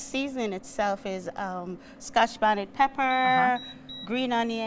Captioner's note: hot plate beeps